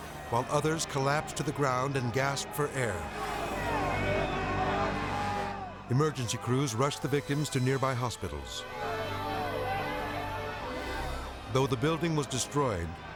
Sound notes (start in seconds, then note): 3.7 group chattering frantically; 8.8 siren blaring